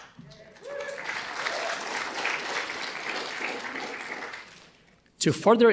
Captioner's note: audience cheering and applauding